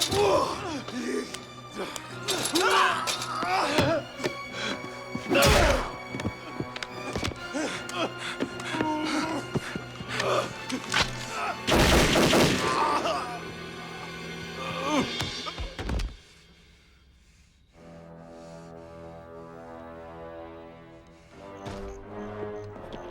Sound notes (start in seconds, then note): 2.5 tense music continues; 5.4 kick thudding; 11.6 gunshots blasting; 14.7 Knox groans; 18.0 Dalton breathes heavily; 18.0 ominous music